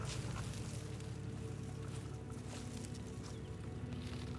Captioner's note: grass crunching